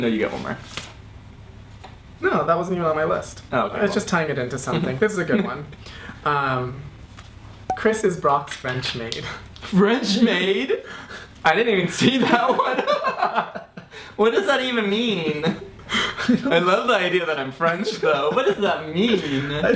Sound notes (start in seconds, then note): 13.8 laughs